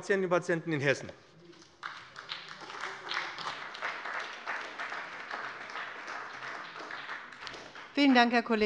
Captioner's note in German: Beifall bei dem BÜNDNIS 90/DIE GRÜNEN und der CDU